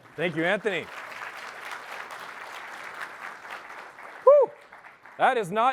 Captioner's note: applause